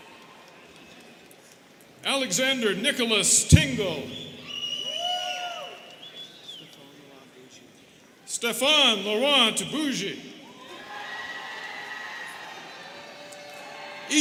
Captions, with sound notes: Alexander Nicholas Tingle. (students whistling) - Stefan Laurent Bougie. (students cheering)